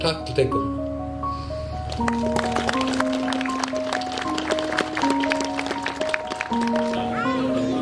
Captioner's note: clapping